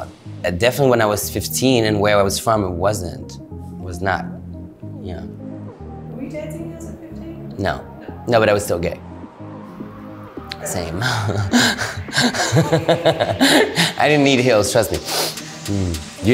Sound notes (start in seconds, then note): 10.9 laughs